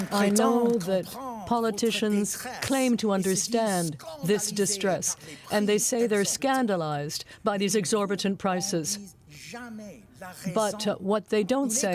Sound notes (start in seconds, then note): 0.0 applause; 3.9 speaking french